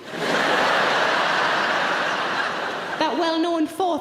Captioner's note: audience laughing